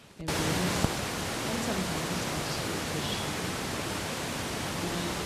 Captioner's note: static hissing loudly